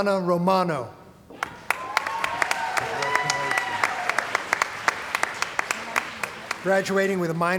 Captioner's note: cheering & Applause